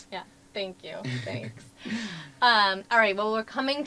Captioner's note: laugh